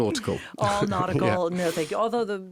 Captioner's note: laughing